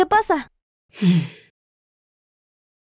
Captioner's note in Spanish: Suspira